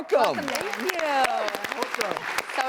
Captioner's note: audience clapping